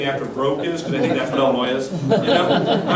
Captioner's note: laughter